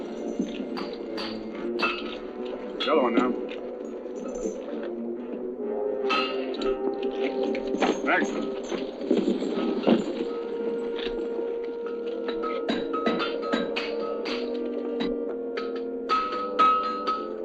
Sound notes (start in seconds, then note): 0.0 metal clanging; 3.8 chains rattling; 6.1 metal clanging; 11.8 metal clanging; 16.1 metal clanging